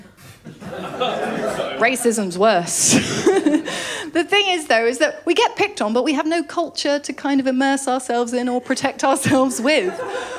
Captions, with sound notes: [LAUGHTER] Racism’s worse. [LAUGHS] But the thing is though, is that we get picked on but we have no culture to kind of immerse ourselves in or protect ourselves with.